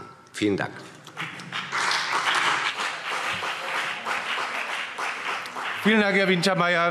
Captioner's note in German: Beifall CDU und BÜNDNIS 90/DIE GRÜNEN